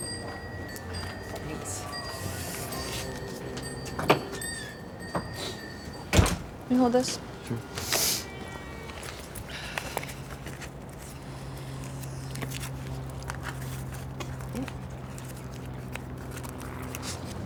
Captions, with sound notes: - Thanks. Can you hold this? - Sure. (gum paper crinkling)